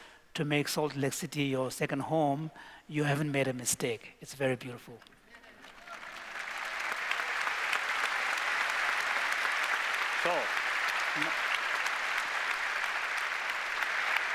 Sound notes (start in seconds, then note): 5.5 applause